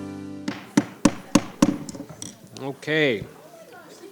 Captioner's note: gavel thudding